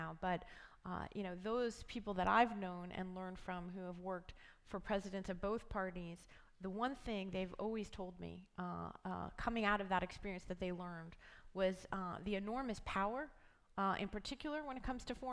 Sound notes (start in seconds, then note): none